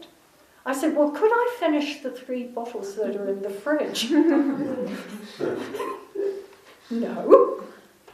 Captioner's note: laughter